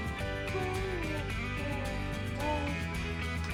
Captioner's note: baby mumbling